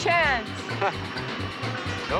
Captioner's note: chuckling